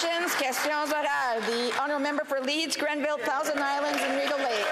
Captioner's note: applause